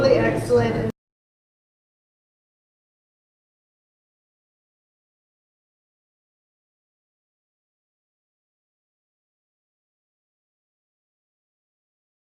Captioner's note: no sound